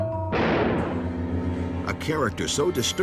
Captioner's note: gun firing